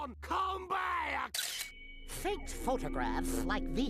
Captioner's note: camera clicks